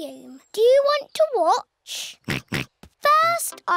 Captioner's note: snorts